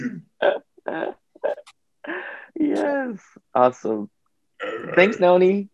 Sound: laughs

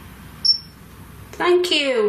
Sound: metre beeps

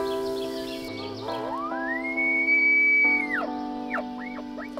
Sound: blows elk call

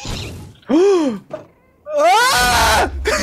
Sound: gasps; screams

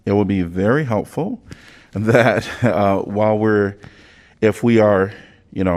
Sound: laughter

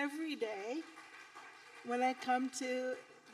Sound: audience applauding

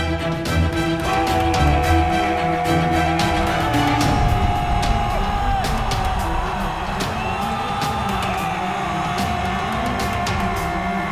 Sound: sound of Hurrah

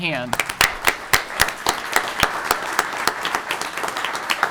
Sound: audience clapping

